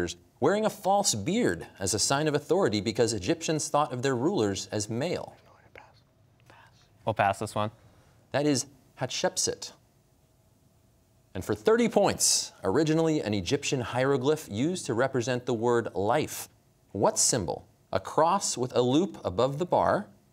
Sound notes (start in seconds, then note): 5.2 whispering